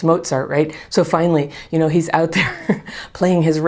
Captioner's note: chuckles